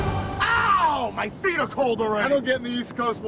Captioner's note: screams